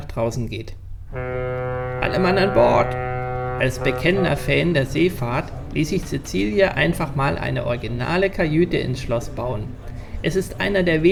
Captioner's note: ship's horn